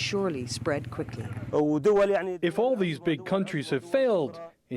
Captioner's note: through translator